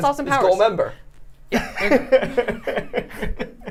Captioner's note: laughter